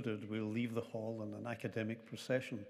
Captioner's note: none